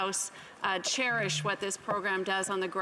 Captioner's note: speaking French